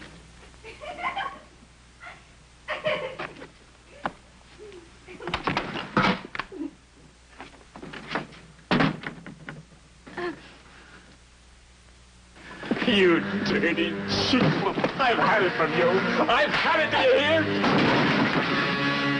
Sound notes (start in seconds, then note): 2.6 giggling